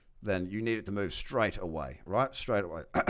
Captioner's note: clears throat